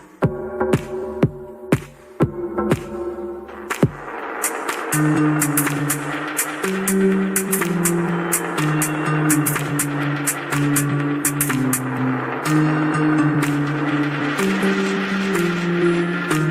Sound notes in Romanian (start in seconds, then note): 3.7 Aplauze